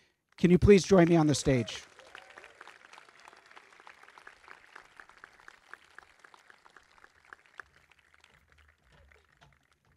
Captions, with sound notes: Can you please join me on the stage? (crowd clapping)